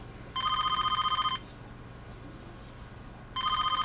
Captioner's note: phone rings